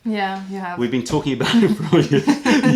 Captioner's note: laughter